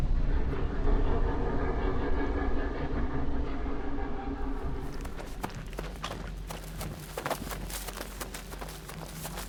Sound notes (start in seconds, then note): 4.6 footsteps shuffle